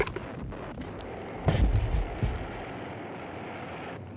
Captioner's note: missiles blasting